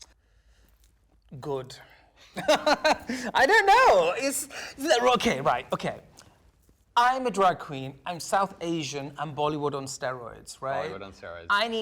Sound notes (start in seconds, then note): 2.4 laughing